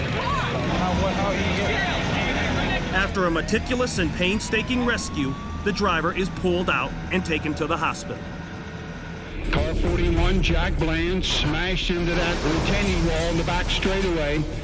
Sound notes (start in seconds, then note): 0.6 siren wails